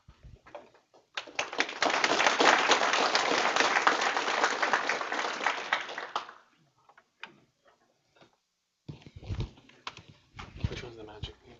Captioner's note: applause